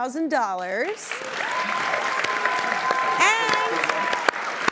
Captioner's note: audience applauding